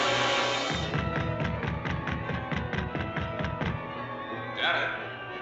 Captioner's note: pounding On Door